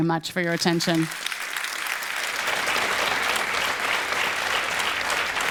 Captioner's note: audience applauding